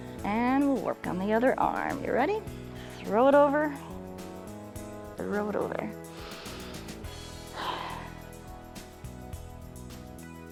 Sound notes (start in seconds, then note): 6.1 inhales and exhales